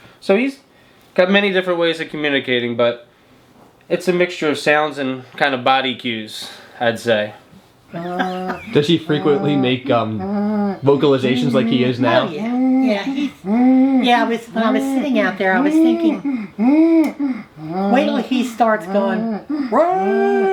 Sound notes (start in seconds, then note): 7.9 grandma laughing; 12.0 humming; 15.6 humming